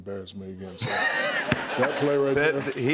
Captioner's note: laughter